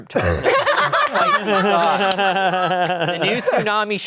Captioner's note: everyone laughing